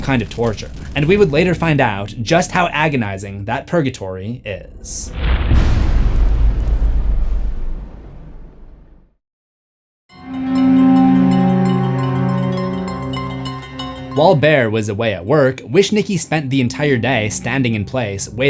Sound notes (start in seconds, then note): 5.2 impact